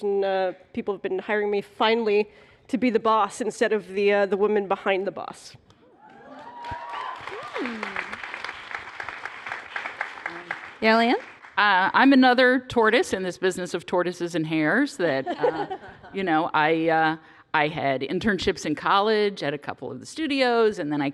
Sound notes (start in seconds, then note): 7.6 applause; 15.2 laughter